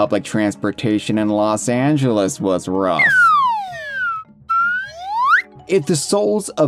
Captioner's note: slide whistle ascends; slide whistle descends